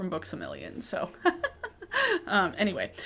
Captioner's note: chuckles